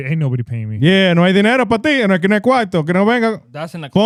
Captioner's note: speaking In Foreign Language